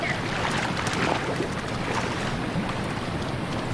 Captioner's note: splashing